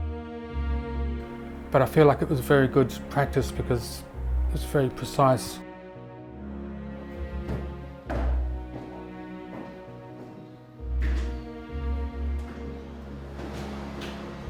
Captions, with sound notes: But I feel like it was very good practice because it's very precise. (footsteps thumping) (gentle music)